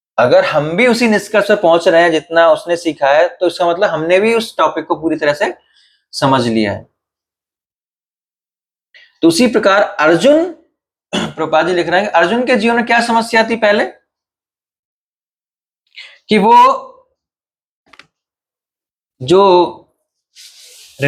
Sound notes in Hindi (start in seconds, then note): 11.1 गला साफ़ करने की आवाज़